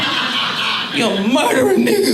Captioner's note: audience laughing